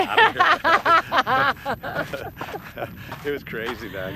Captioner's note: Connie laughs